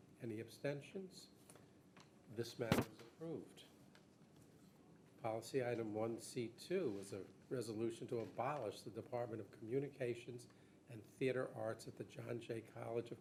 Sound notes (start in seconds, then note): none